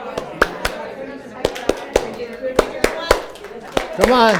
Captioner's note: clapping